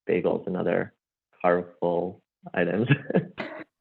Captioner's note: laughs